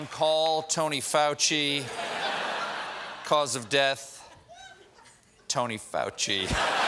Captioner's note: cheers and applause